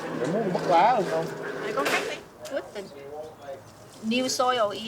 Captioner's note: speaking in a foreign language